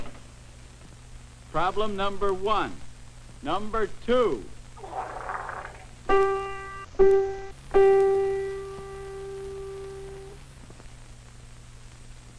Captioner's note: wet fart